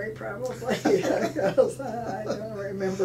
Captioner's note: laughing